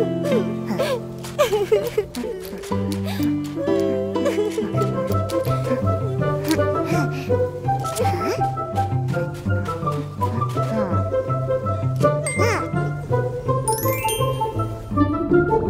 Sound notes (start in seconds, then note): 0.1 crying; 8.2 sound of footsteps